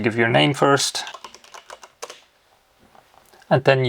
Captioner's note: keyboard clicking